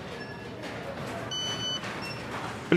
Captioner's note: piiip